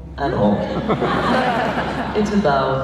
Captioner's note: laughs